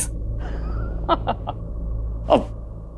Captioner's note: Giggling